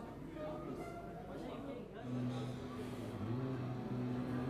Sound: crowd chattering

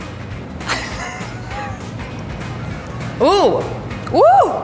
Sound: laughs

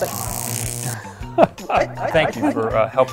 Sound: laughter

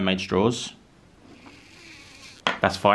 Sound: mouth sucking

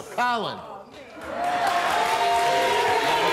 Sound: audience applauds

